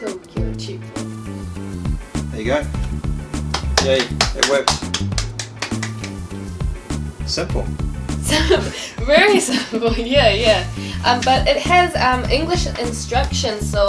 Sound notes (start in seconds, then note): 3.4 clapping; 8.2 laughs